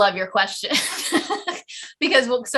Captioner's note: giggles